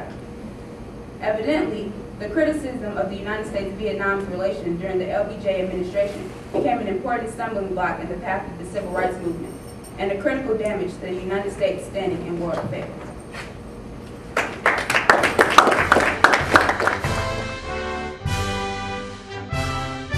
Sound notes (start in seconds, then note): 12.5 audience applause; 15.8 music playing-- no dialogue